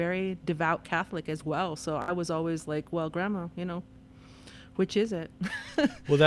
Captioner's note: laughter